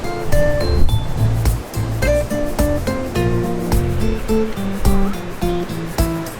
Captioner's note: peppy guitar music; waves crashing